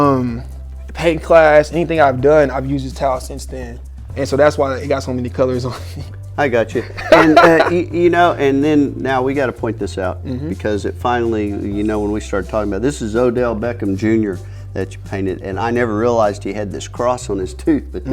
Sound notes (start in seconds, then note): 6.9 laughing